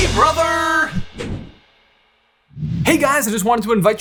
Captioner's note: air whooshing